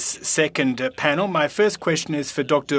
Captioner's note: speaking FRENCH